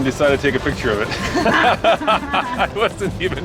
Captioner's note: laughter